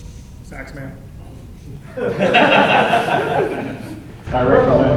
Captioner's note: chuckles